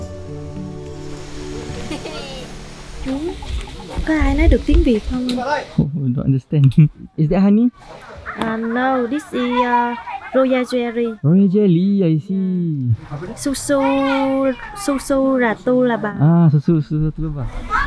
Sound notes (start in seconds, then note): 3.1 speaking Vietnamese